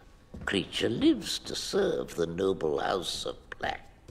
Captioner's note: none